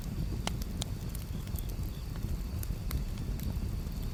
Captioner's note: fire crackling